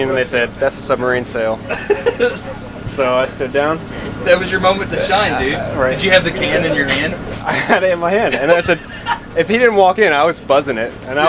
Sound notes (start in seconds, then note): 1.6 laughing